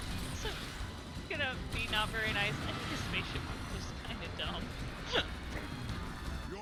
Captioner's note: laughs